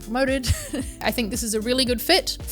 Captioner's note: laughs